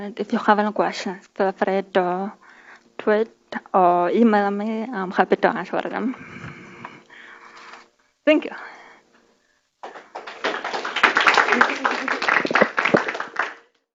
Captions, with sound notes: And if you have any questions, feel free to tweet or email me. I'm happy to answer all them. Thank you. (audience applause)